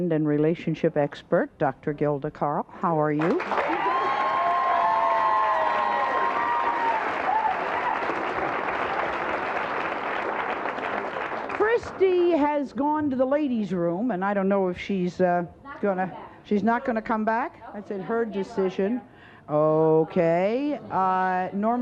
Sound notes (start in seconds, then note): 3.2 audience applauds